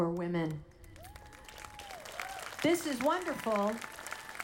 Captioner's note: audience applauding